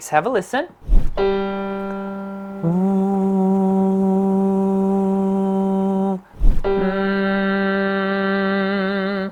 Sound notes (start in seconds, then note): 1.2 piano; 2.7 humming